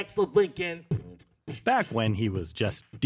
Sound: beatboxing

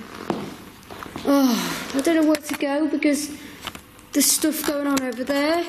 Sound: sighs

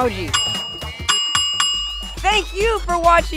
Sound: bell ringing

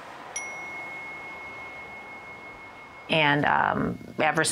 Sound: bell chimes

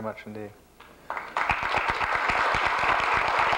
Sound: applause

